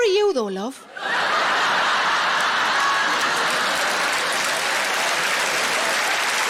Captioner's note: audience laughing and applauding